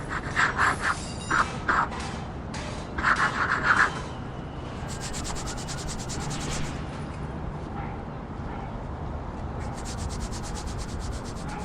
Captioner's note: sounds of chalk writing, and erasing